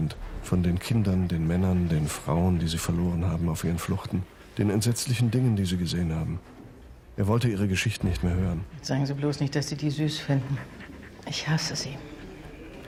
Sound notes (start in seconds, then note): 8.6 in German